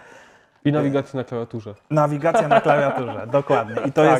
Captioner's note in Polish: śmiech